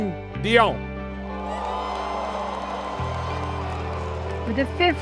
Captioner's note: cheering